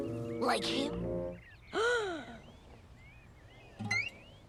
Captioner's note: Owen's mom gasps